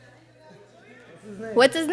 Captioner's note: audience chattering